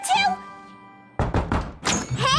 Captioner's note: knock on door